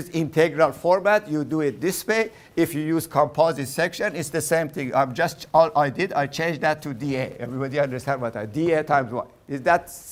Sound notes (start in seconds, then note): none